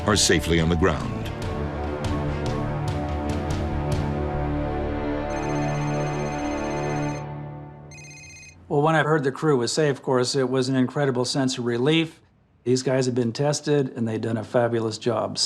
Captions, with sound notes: are safely on the ground. (phone ringing) - When I've heard the crew was safe, of course it was an incredible sense of relief. These guys had been tested and they'd done a fabulous job.